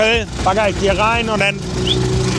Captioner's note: whistle